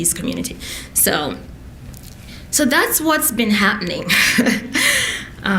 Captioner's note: laughs